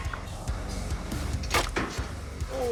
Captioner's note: clank